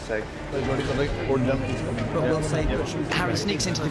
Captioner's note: chattering